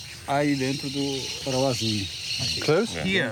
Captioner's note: speaking in foreign language